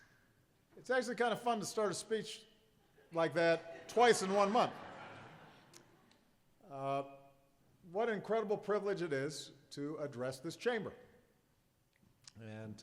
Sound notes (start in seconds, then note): 6.2 laughter